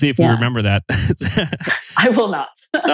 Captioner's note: laughs